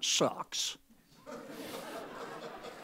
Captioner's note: laughter